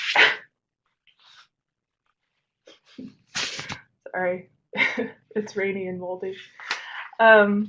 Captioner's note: sneezes